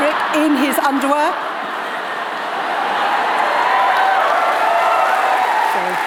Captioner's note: applause